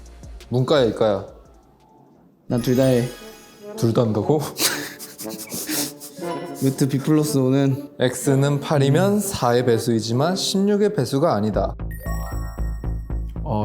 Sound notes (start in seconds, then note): 4.5 giggling